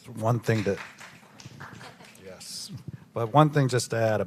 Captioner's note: audience clapping